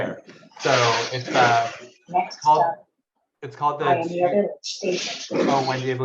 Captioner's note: chuckles; faintly speaking